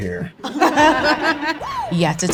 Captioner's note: room laughs